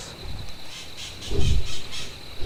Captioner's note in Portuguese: Vento rápido